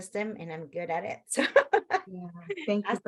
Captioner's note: laughs